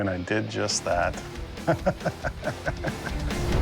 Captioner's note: laughs